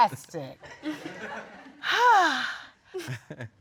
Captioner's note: sighing